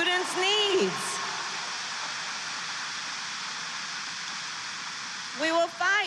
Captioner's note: applause